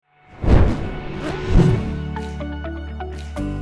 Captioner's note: air whooshing; mellow music